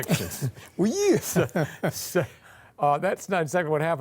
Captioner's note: both laughing